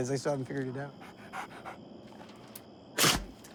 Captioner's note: dog pants, sneezes